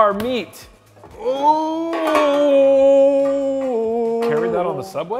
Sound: groans

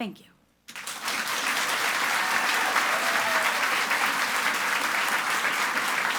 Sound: audience applauds and cheers

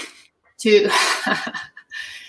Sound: laughs

